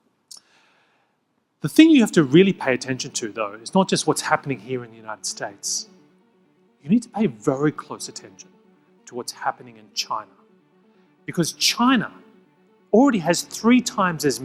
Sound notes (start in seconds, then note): 5.6 drone humming; 5.6 faint gentle music